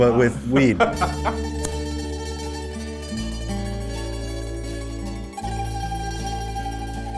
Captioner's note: lighter flicking